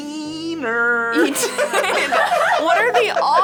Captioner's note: group laughs